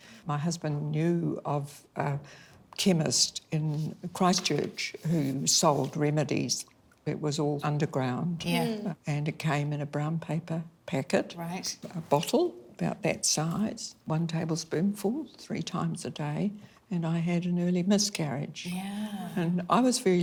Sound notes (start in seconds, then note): none